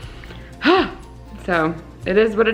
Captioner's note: sighs